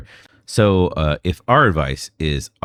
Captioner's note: uh